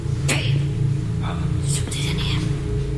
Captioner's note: eerie hissing